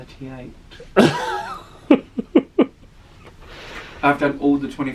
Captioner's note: laughs